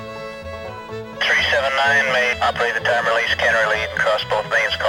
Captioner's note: voiceover